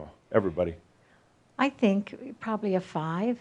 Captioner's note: none